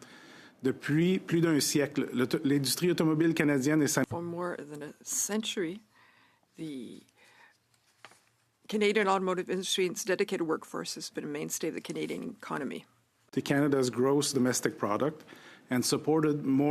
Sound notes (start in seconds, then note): 6.6 speaking French